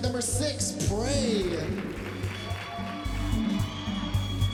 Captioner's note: cheering and applause